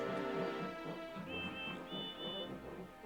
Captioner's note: both hooting